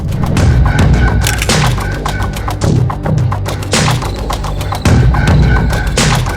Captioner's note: shutter clicking; suspenseful music continues